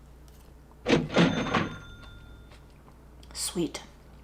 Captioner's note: cash register dings